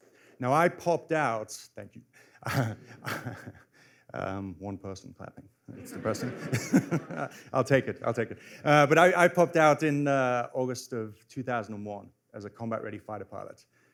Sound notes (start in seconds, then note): 2.4 laughs; 5.7 laughter